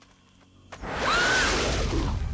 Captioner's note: screams